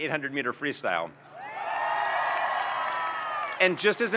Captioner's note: audience cheering and applauding